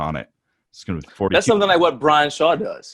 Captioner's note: murmurs